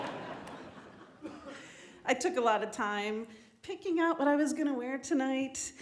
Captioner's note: laughter